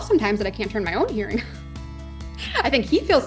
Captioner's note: laughs